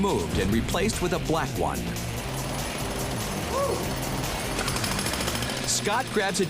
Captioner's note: jackhammer rattles